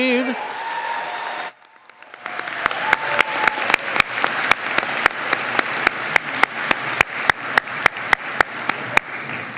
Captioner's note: applause